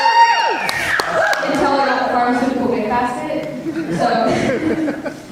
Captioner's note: audience laughs